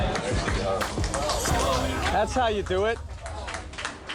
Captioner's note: cheers and applause